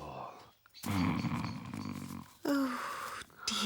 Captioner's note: snoring